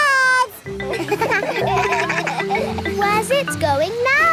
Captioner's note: kids laugh